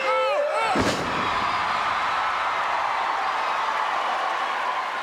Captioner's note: crowd cheering